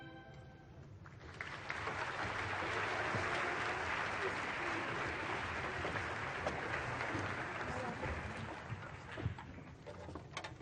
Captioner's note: applause